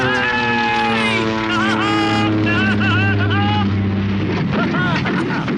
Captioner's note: laughs hysterically; engine sputters